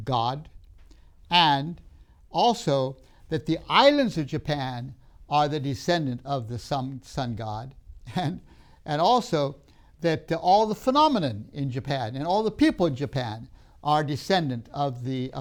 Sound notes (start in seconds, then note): 7.4 laughs